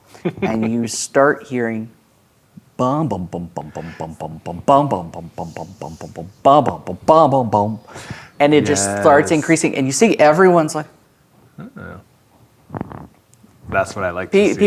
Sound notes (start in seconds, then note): 2.7 imitates up tempo bass line